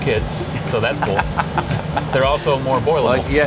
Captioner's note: laughing